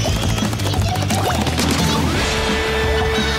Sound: more weird Ichiya noises

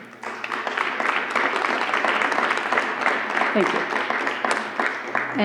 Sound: applause

